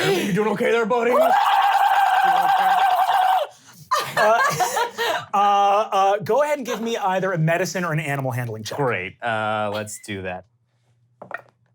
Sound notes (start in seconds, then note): 1.1 glottal screaming; 3.8 laughing